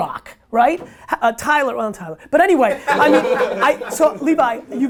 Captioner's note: group laughter